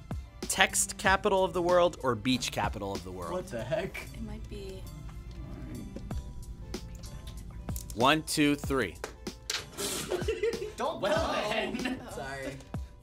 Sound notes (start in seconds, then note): 9.8 laughs